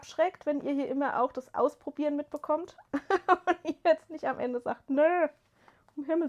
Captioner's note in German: gelächter